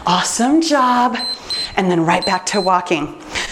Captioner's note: timer beeps